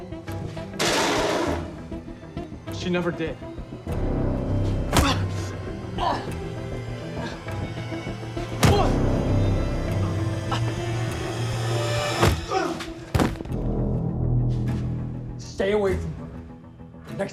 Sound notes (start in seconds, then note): 0.8 tray clattering; 5.0 Edgar grunts; 5.0 punch thuds; 8.7 Edgar grunts; 8.7 punch thuds; 12.5 Edgar grunts; 13.1 punch thuds; 13.1 Edgar thuds; 14.1 suspenseful music